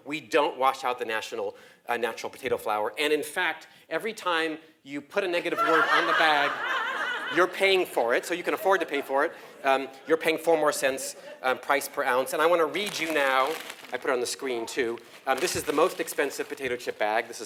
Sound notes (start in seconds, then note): 5.5 laugh